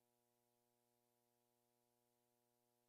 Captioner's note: none